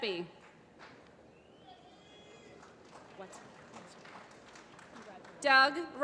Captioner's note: applause